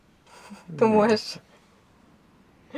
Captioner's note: laughs; in Swiss German